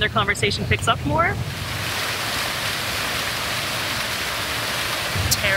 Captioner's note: flowing water